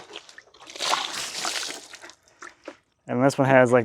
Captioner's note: water splashing